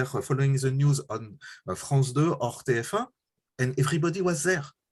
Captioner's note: french